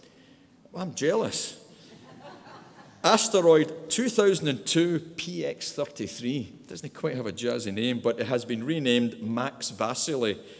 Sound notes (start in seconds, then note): 1.9 audience laughing